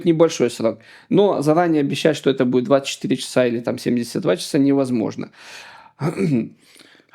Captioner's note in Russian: откашливается